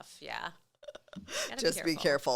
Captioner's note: laughing